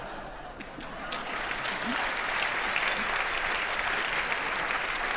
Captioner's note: audience laughing; audience applauding